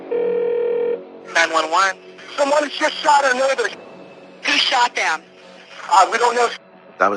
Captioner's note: line ringing